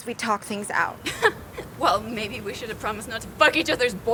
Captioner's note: laughs